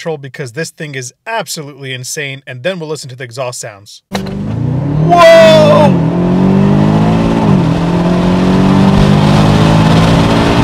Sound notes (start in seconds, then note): 4.1 car driving fast